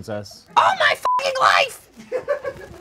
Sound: beep; audience laughs

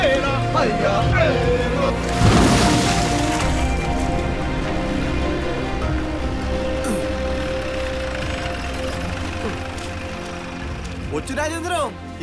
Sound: car Sound

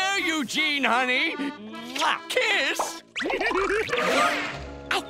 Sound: giggling

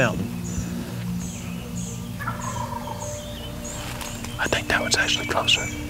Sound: whispering

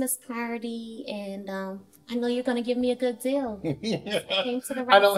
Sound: laughter

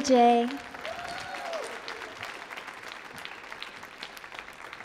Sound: audience applauds

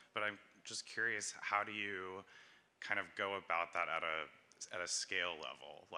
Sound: none

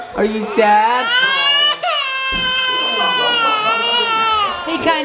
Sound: baby crying

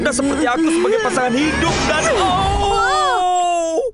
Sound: Bagel screams

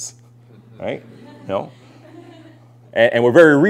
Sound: laughter

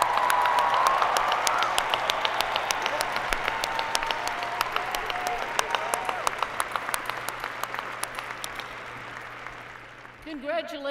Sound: applause

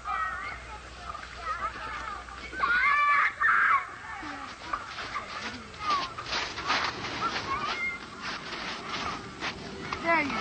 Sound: children Playing

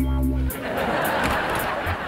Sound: laughing

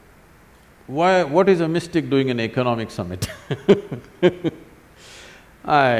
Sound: laughs

